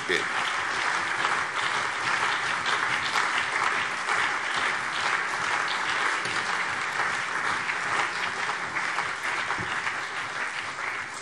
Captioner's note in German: Lebhafter allgemeiner Beifall